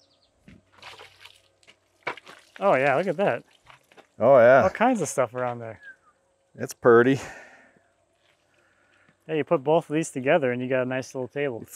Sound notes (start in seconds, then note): 0.6 water splashing